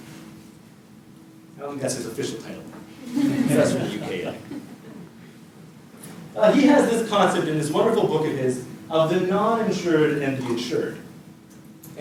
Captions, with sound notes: I don't think that's his official title [audience laughter] professor in the UK though. He has this concept in this wonderful book of his of the non-insured and the insured